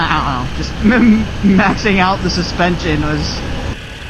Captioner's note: laughter